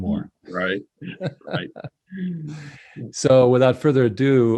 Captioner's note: laughs